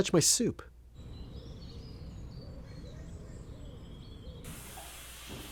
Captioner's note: birds chirping